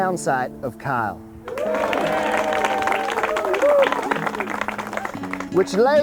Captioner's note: rousing Applause